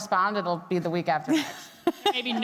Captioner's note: laughing